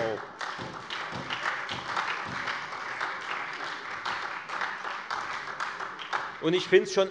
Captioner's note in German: Beifall Freie Demokraten und vereinzelt SPD